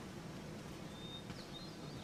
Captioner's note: footsteps